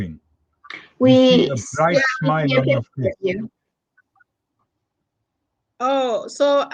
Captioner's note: chatter